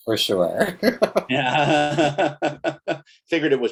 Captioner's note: laugh